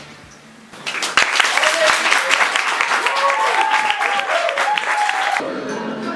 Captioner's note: applause